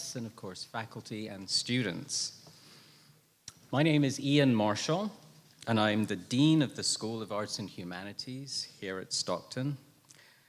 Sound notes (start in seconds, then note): none